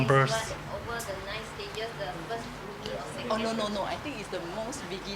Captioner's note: woman speaks off mic